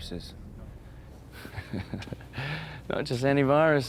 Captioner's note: laughs